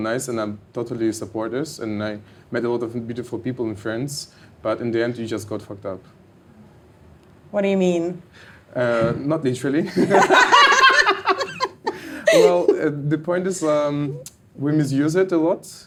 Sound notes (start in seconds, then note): 9.9 both laughing